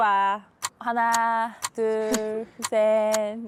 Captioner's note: countdown sound effect